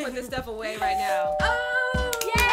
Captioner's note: doorbell rings